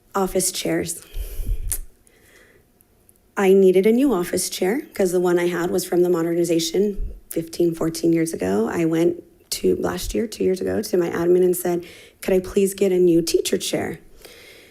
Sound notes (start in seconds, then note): none